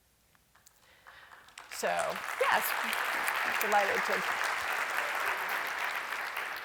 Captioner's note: applause